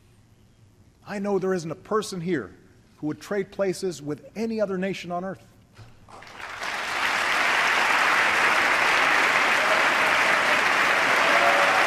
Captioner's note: applause